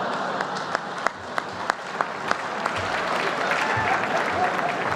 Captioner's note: laughter